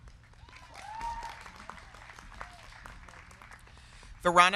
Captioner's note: crowd clapping; crowd cheering